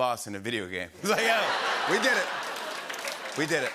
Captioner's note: laughter